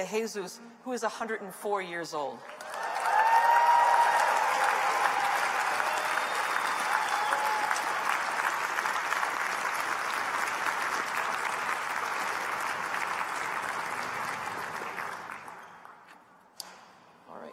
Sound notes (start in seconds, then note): 14.0 applause